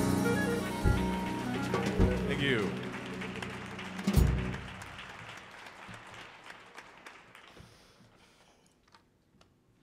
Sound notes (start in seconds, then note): 1.1 audience applauds